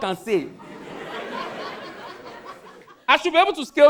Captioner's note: audience laughing